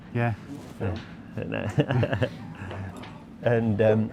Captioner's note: laughing